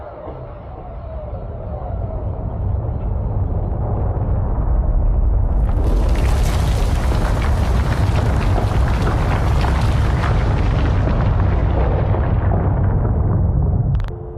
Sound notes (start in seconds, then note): 1.9 a low cataclysmic rumble grows louder